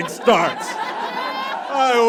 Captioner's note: audience laughs heartily